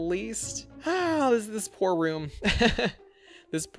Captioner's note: sighs; laughs